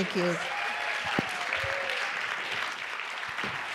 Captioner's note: applause